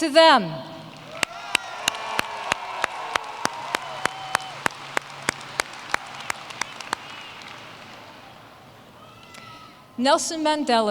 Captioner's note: applause